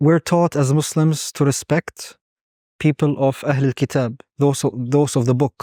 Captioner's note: speaking Arabic